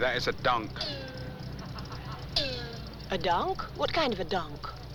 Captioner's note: engine Twanging